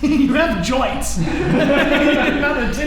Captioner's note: laughing